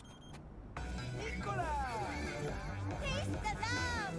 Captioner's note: speaking in foreign language